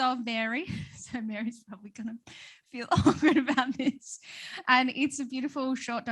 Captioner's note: laughs